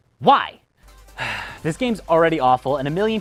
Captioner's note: sigh